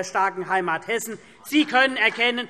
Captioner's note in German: Beifall